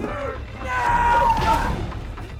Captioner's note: Skull-Faced Assailant groaning over thudding strikes; Sue screams; strike thudding